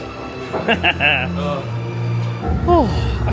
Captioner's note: laughs